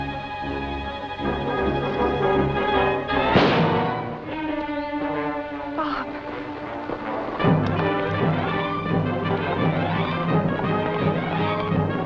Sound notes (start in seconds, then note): 3.3 gunshot